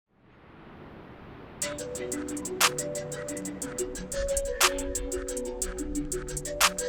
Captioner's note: waves roar; upbeat music